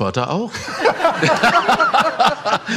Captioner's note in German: Lachen